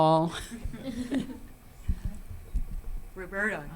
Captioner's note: panel chuckles